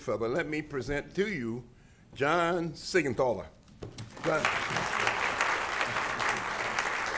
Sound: applause

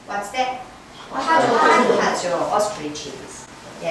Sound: speaking foreign language

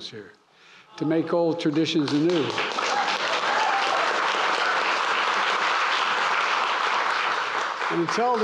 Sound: applause

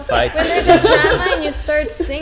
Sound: laughs

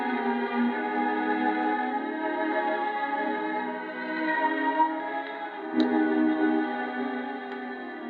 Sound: small applause

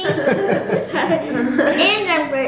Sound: laughing

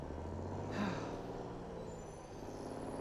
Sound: sighing

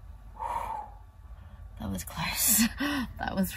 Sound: breathes out

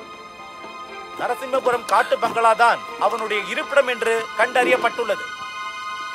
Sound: TV news

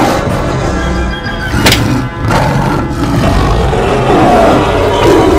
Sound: smack sounds

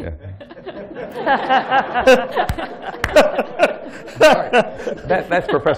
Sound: laughter

